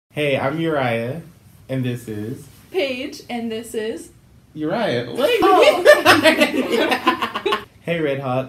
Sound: laughing

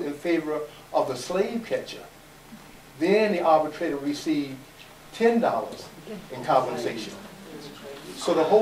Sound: audience murmurs

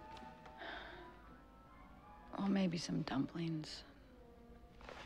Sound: sighing

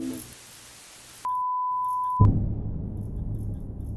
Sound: long beep

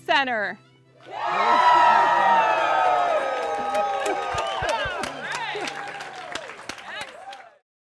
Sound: everyone cheers

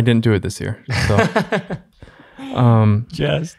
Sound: laughs

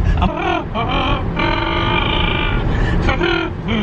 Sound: buzzes lips

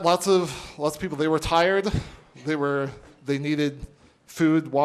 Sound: speaking spanish

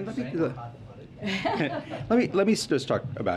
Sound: laughs

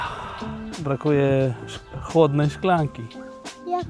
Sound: sigh

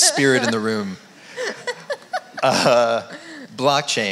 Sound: laughs

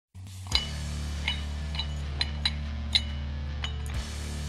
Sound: weights clinking

